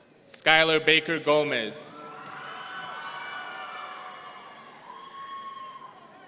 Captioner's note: audience cheering